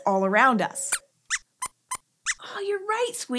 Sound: squeaks squeaks

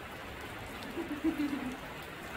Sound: laughs

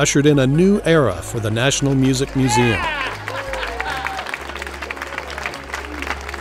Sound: crowd clapping

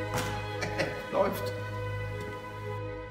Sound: German

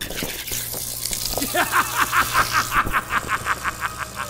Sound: laughter

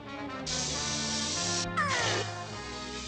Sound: all exclaiming

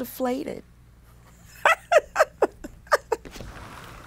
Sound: laughs

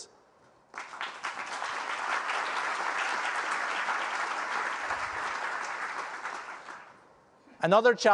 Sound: applause

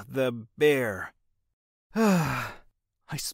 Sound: sighs

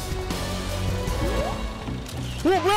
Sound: click

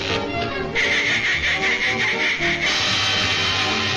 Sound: quacking

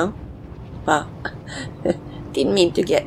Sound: laughs

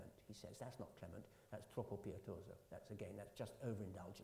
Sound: italian

